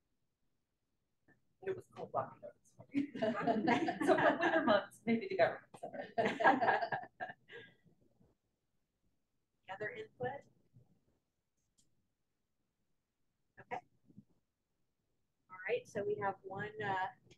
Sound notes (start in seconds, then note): 5.8 laughter